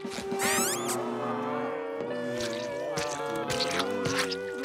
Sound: groaning

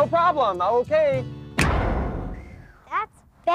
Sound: loud, short bang again

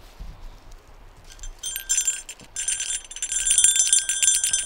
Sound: bell jingling

